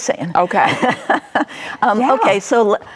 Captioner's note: laughs